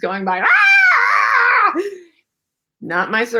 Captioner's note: monkey sounds